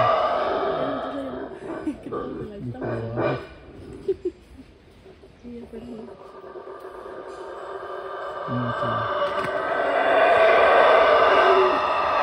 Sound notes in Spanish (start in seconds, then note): 0.5 aullidos del mono aullador